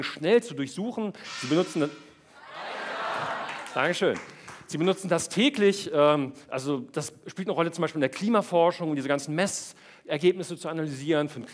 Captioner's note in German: Gong